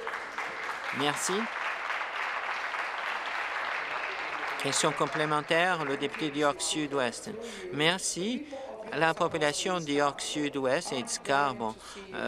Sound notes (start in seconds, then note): 2.5 applause